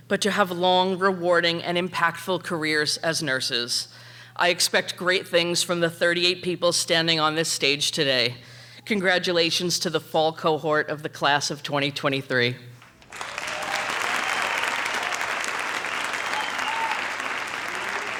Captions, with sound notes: but to have long, rewarding and impactful careers as nurses. I expect great things from the 38 people standing on this stage today. Congratulations to the fall cohort of the Class of 2023. (audience applauding) (audience cheering)